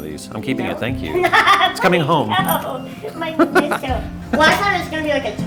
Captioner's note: laughs